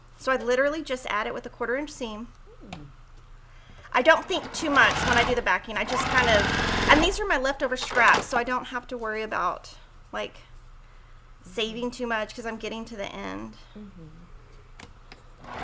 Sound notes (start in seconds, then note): 4.0 sewing machine hums